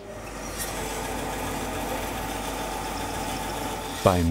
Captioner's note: engine hum